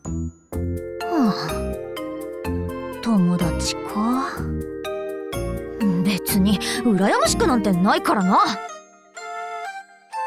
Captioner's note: sigh